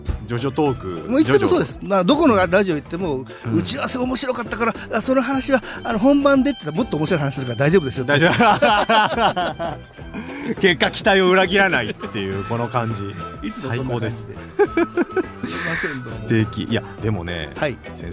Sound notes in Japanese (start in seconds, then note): 8.2 笑い; 14.4 笑い